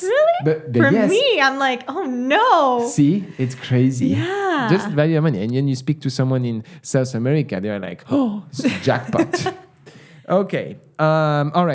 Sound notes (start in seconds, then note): 9.8 gasp